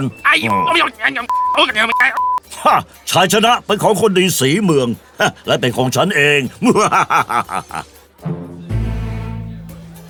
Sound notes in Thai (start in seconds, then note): 6.6 หัวเราะสะใจ